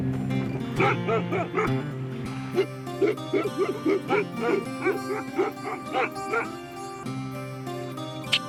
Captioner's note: barking